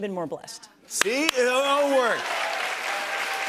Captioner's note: cheers and applause